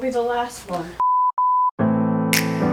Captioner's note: beeps; upbeat music